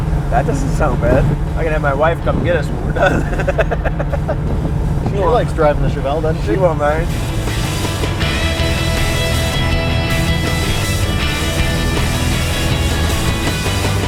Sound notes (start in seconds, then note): 2.7 laughs; 7.2 energetic rock music